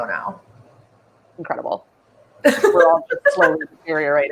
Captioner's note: laughs